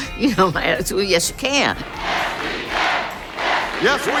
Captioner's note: crowd chanting